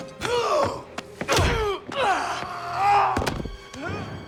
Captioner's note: Knox grunts; blows thudding; Knox and Dalton grunting; Knox grunting